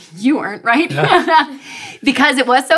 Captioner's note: laughing